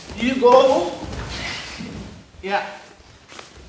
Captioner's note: mat thudding